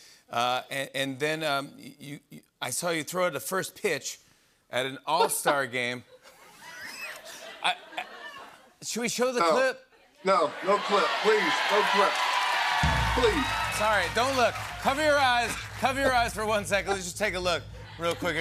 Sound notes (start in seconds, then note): 5.2 laughter; 10.5 cheers and applause; 12.5 drumroll